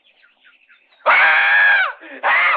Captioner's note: Jeff screaming